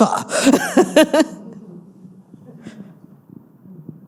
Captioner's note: all laughing